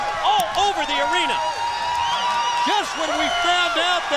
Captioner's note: crowd cheering